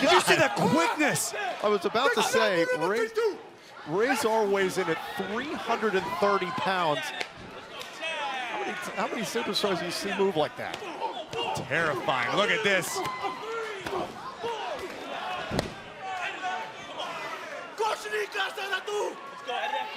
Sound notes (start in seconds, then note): 17.5 speaking foreign language